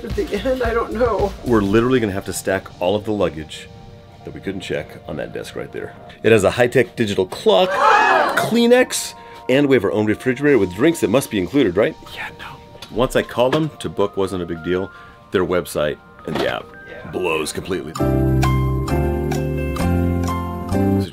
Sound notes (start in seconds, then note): 7.6 crowd gasps; 18.0 calm music